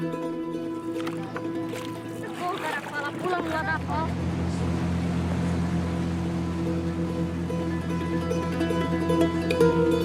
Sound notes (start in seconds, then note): 2.5 Portuguese spoken audio